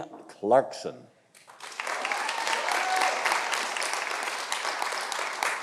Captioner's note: audience applauding